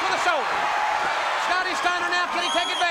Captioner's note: crowd cheering